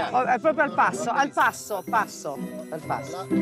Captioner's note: speaks in Italian